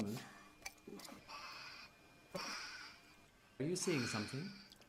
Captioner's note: alien screaming